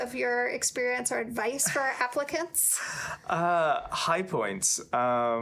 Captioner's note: chuckling